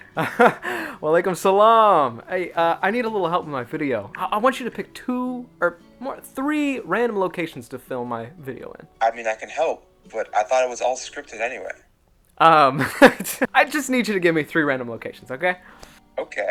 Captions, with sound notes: *chuckle* Wa alaikum salaam! Hey uh, I need a little help with my video. I want you to pick, two... er, mo- three random locations to film my video in. Uhm, *nervous chuckle* I just need you to give me three random locations, okay?